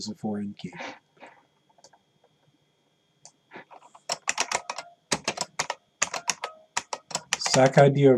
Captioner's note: typing